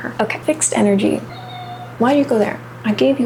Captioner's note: cream meowing